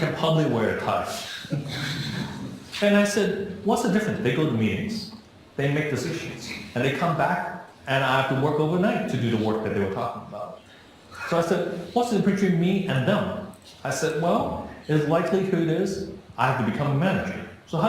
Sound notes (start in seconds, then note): 1.1 laughing